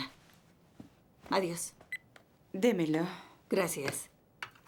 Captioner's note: beep